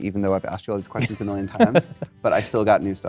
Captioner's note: laughs